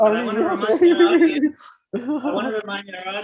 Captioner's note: laughs